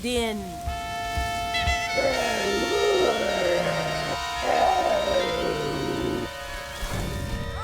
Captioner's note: cacophonous sound from instruments; growls in pain